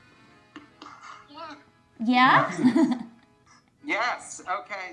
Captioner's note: laughs